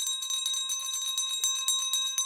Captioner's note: bell ringing